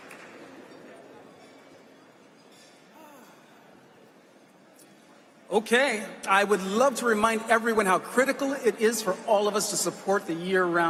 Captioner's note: applause